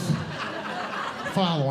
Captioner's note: audience Laughing